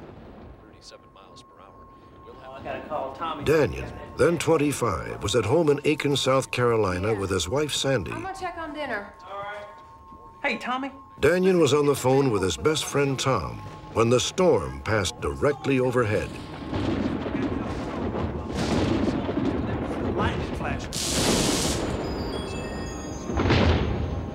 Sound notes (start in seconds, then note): 16.0 thunder; 20.8 sizzle